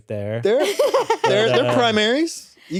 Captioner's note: laughs